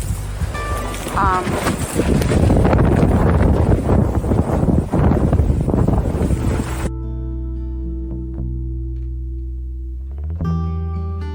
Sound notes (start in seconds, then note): 3.3 gusts of wind